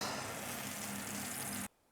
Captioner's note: sizzling sound